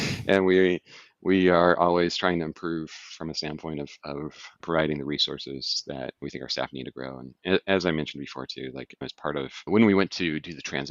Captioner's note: laughing